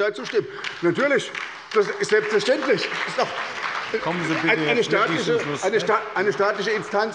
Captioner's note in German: Beifall bei er SPD und der LINKEN